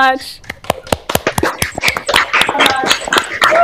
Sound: applause

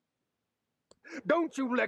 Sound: i n h a l e

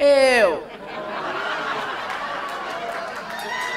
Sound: laughs

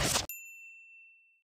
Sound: ping

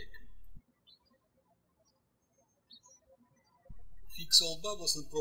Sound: birds chirping

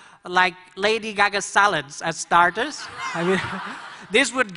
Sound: laughter

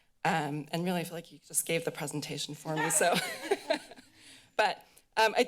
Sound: laughter

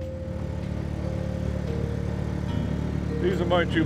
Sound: boat motors

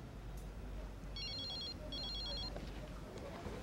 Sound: phone ringing

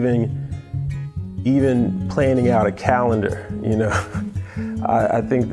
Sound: laughs

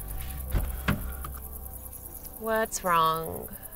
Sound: door clunking; keys jingling

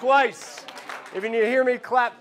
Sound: clapping

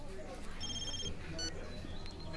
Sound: phone ringing

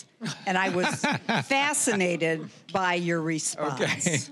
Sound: scattered laughing

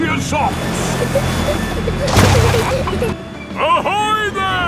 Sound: peppa and george giggling

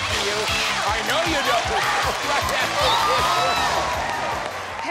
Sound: cheers and applause

